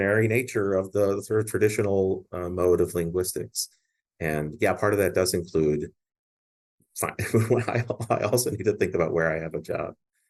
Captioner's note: laughs